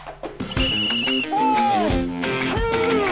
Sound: whistle blowing

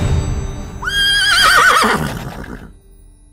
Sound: horse whinnies

